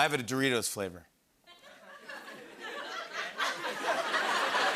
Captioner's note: laughter